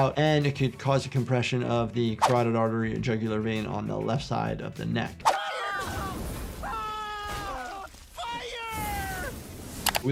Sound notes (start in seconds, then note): 5.7 fire blasting; 6.5 Eddie screaming; 9.1 fire blasting